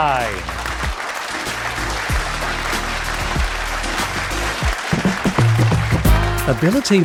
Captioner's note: applause